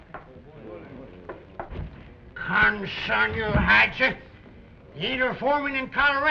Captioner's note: slurring